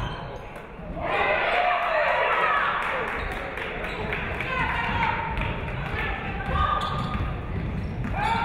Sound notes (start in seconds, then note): 1.0 audience cheering; 2.5 audience clapping